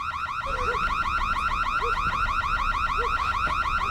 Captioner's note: dogs barking